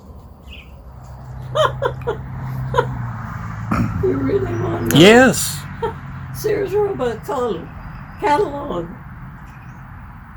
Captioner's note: laughing